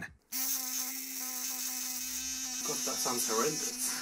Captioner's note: device buzzing